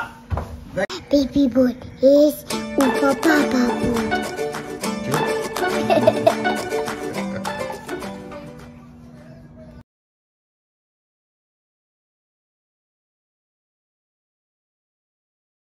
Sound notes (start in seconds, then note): 5.7 laughter